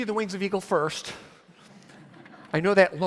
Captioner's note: audience laughs